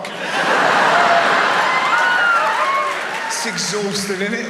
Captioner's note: audience laughs